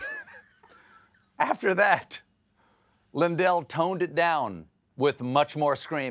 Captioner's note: laughter